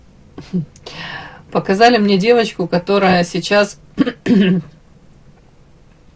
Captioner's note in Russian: откашливается